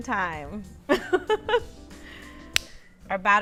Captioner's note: giggles